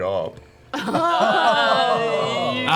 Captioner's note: groaning